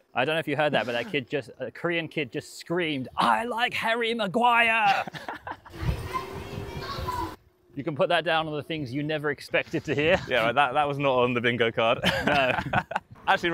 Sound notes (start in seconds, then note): 4.8 laughing; 12.0 laughing